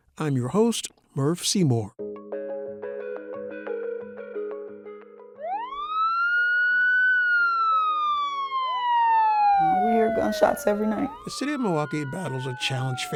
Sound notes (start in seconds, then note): 2.0 gentle music; 5.3 siren wailing